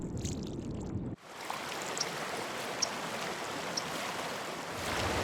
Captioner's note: flowing Water